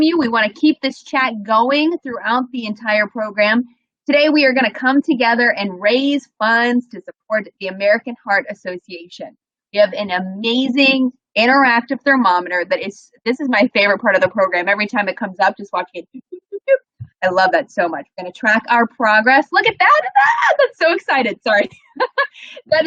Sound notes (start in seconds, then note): 19.7 exclaims; 21.6 laughs